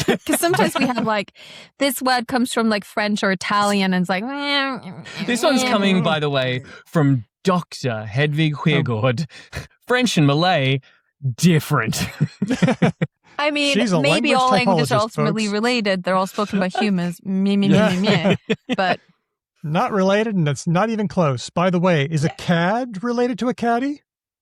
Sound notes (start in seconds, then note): 4.6 indecisive noises; 11.8 laughter; 19.7 laughter